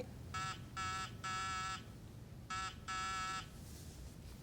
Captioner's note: intercom buzzing